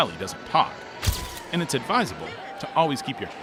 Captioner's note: flashbulb popping